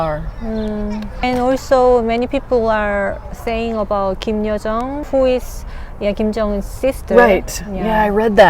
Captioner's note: talking